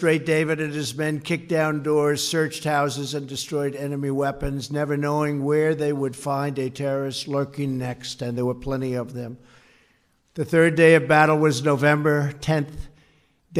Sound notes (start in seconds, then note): none